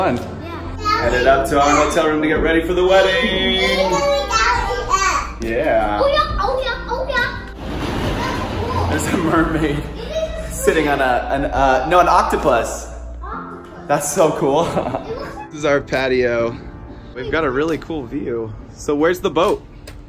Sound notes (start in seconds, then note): 14.6 laughs